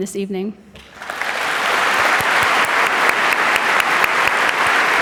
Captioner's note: audience applauding